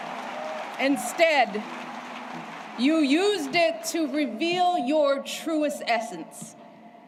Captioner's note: applause